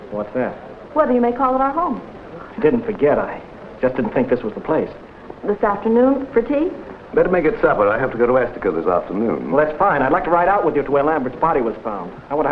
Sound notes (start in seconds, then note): none